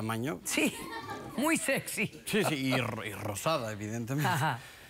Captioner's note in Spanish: risas